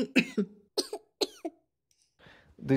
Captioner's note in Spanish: Coff coff; Coff coff más agudo